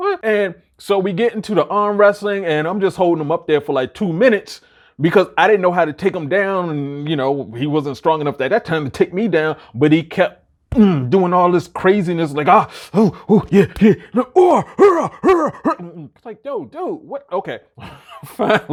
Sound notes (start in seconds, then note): 12.8 grunts; 17.8 chuckles